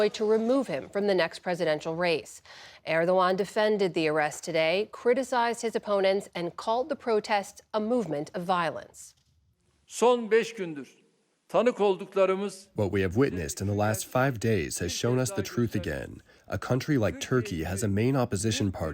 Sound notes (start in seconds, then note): 13.3 through translator